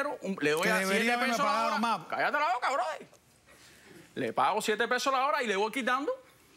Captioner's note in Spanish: Hablan al unísono